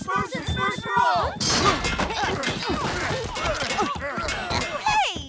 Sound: grunting

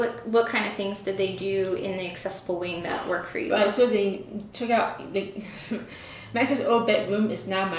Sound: laughter

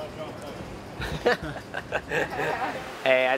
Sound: laughs

